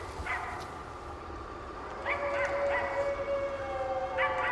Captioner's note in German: Hundegebell